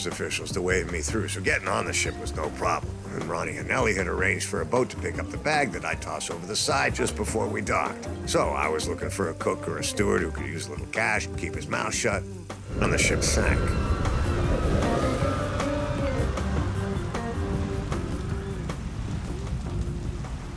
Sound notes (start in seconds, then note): 12.7 people screaming